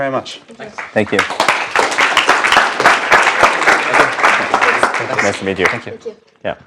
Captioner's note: applause